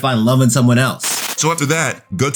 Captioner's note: TV static running